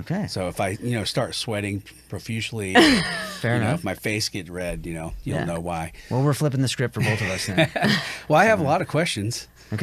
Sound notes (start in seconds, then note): 2.7 laughs; 7.1 laughs